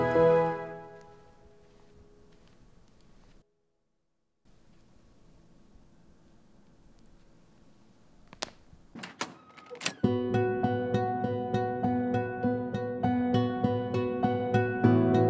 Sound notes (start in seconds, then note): 0.0 music stops; 3.7 footsteps; 8.9 door handle turned